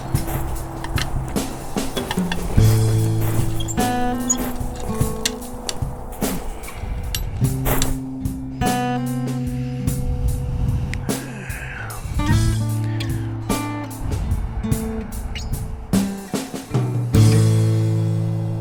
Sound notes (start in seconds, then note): 1.9 footsteps